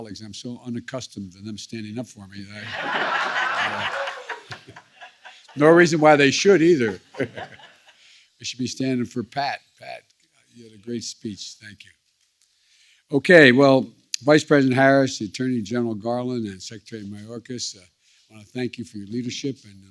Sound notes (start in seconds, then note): 5.3 laughter